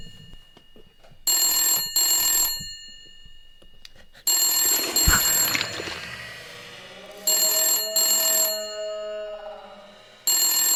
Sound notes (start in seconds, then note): 4.6 sound of knife being removed and blood gushing; 7.2 sound of phone still ringing